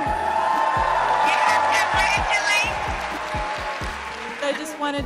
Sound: crowd cheering

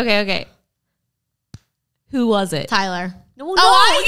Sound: slapping sound

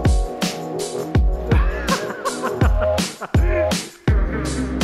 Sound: laughing

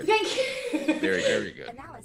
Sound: laugh

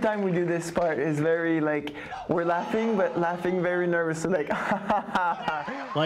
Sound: laughs

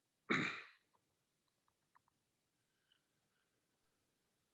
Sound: clears throat

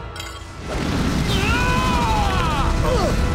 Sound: screaming

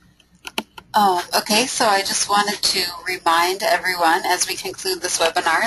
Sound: voiceover

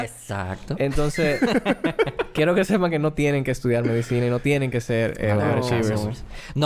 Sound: laughs

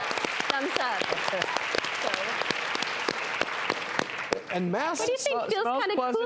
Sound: audience applauding

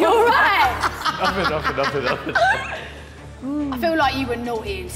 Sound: woman laughing

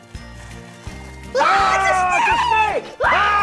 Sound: exclaiming

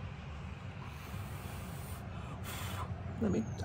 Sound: blows air

